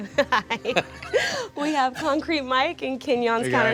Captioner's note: laughs